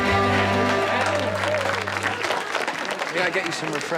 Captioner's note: everyone clapping